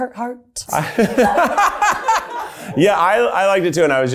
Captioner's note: everyone laughs loudly